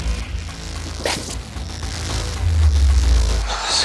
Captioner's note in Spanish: En voz baja